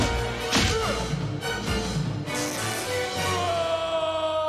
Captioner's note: punch lands; cape rips; Batman screams